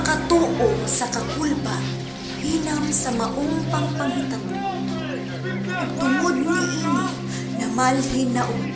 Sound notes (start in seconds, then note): 4.5 screams